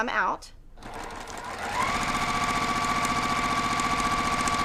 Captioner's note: machine sewing